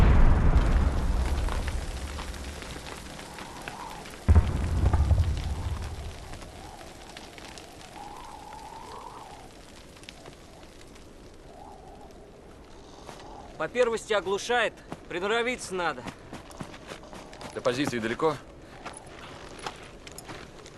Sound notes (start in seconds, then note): 0.0 sounds of explosions; 2.8 sound of wind; 4.2 far-off canon fire; 18.7 crunch of footsteps on snow